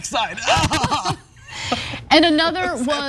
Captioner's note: laugh